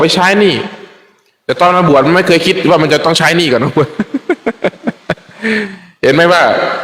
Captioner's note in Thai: เสียงหัวเราะ